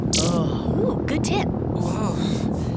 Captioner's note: snaps fingers